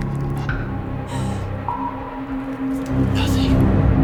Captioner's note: gasps